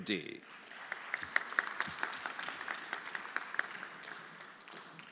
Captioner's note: everyone applauding